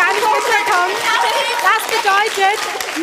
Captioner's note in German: Applaus; Jubel